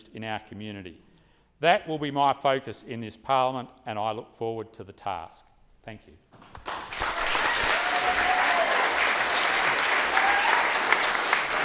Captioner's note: applause